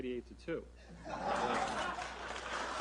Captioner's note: laughter; applause